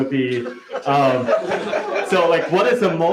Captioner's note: laughter